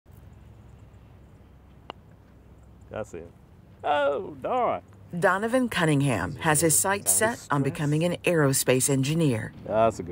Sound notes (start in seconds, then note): 1.7 lightly taps golf ball